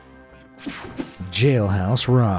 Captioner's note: swishing